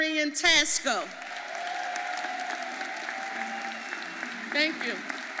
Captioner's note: audience applauding